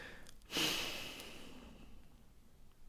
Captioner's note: sigh